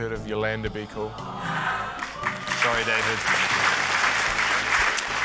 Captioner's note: audience groans, applauds